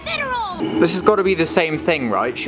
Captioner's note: Dead Space door noise